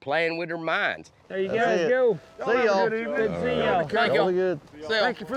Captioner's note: overlapping chatter